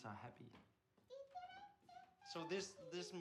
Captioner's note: hums